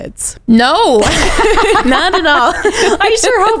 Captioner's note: both laughing